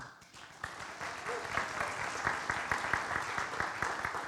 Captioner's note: audience applauds